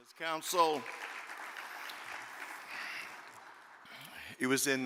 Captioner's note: audience applaud